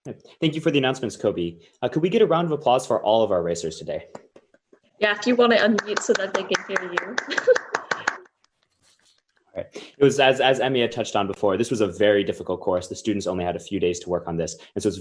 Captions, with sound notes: Thank you for the announcements, Kobe. Could we get a round of applause for all of our racers today? Yeah. If you want to unmute, so that they can hear you. [APPLAUSE] As Emi had touched on before, this was a very difficult course. The students only had a few days to work on this.